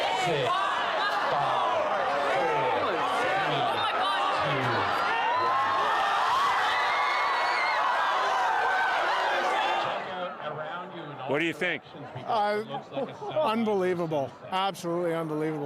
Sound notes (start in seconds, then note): 1.4 counting down; 9.6 cheers and Applause